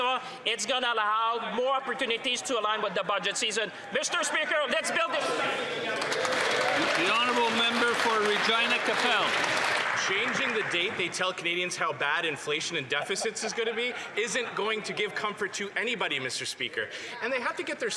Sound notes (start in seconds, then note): 10.4 some Applause